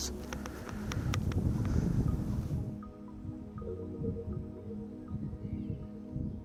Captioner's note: gentle music; wind blowing